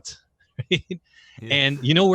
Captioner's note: laughs